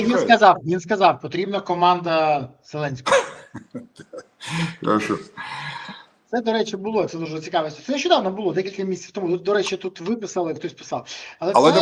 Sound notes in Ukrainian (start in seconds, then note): 3.1 сміх; 3.5 сопіння